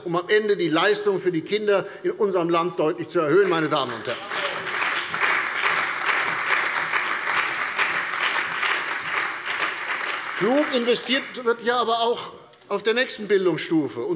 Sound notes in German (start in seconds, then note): 3.3 Beifall bei der CDU und dem BÜNDNIS 90/DIE GRÜNEN